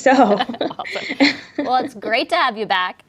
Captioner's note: laughs